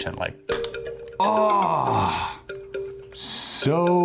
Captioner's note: gasping